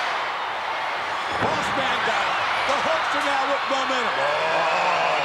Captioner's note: applause